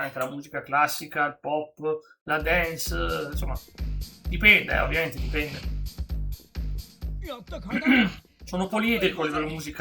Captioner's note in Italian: schiarire la voce